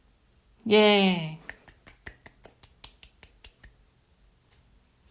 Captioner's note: clapping